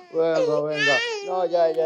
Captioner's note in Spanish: Llanto del bebé